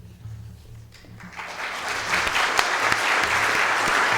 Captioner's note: audience applauding